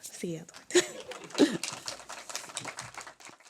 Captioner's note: applause; laughter